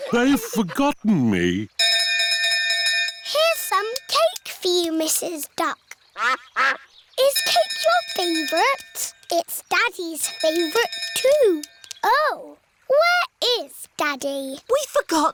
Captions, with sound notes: They've forgotten me. -Here's some cake for you, Mrs. Duck. -(QUACKING) I-s cake your favorite? It's Daddy's favorite, too. -(BELL DINGING) Oh, where is Daddy?